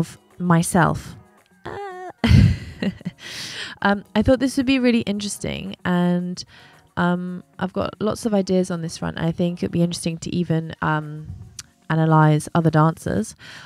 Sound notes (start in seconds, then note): 1.7 chuckles lightly; 1.8 exclaims